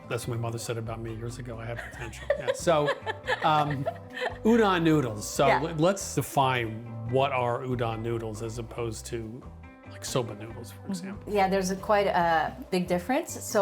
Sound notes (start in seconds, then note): 1.7 laughs